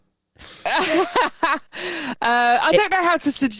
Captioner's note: laughs